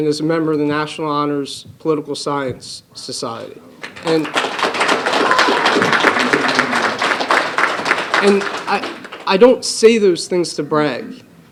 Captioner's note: applause